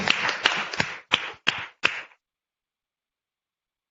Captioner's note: applause